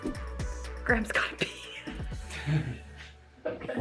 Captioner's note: chuckles